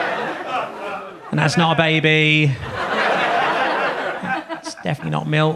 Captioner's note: audience laughs